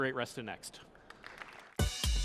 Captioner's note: applause